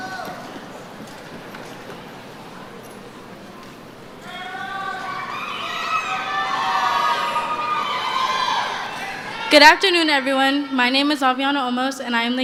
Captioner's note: cheering